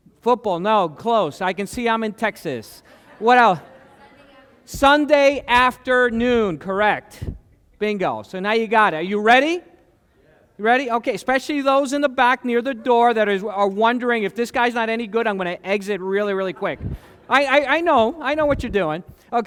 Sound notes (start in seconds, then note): 2.8 laughter